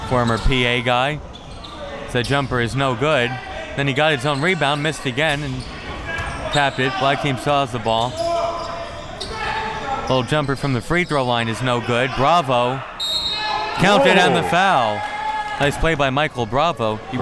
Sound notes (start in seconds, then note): 13.0 whistle blowing; 13.7 audience cheering